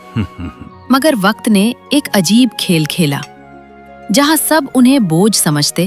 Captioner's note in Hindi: गला साफ़ करने की आवाज़